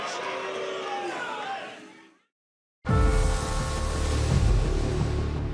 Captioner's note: crowd cheering